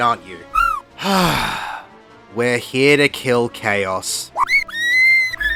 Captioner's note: sigh